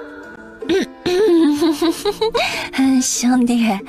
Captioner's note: chuckles mockingly